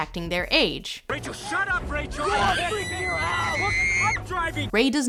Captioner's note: screaming